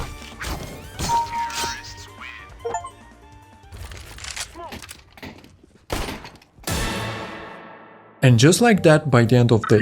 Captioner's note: laughter